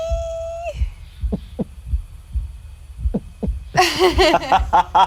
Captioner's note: squeals; heart beating; group laughs